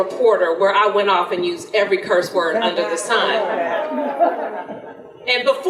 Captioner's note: audience laughter